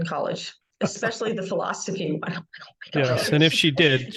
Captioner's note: laughing